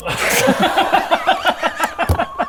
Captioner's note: surprisingly surprised laughter